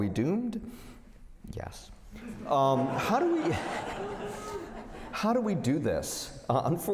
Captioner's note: laughter